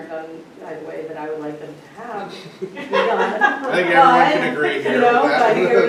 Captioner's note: laughter